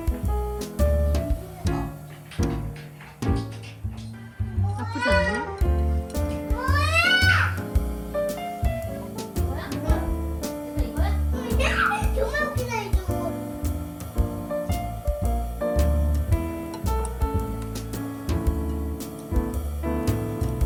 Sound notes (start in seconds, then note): 14.2 tears